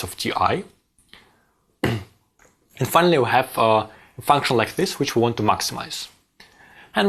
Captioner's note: cough